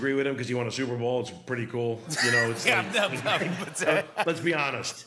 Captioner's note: laughter